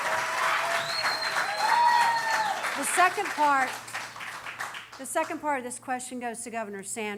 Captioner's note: cheering